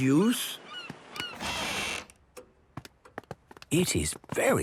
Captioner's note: door squeaking; quiet room